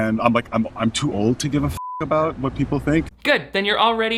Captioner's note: beep